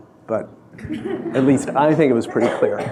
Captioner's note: audience laughing